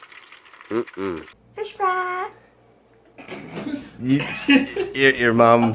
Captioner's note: laughter